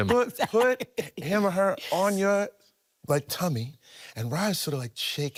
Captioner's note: laughing